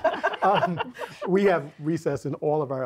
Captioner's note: laughing